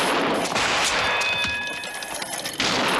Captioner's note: Ricochet dings bell